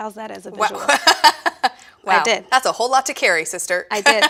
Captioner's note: laughs